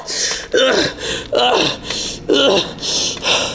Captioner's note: man panting